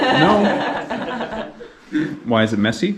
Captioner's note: laughs